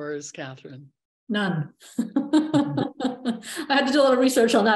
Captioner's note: laughs